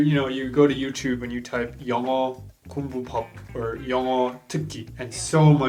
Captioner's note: speaks foreign language